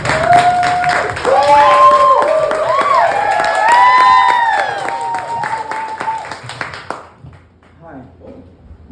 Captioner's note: applause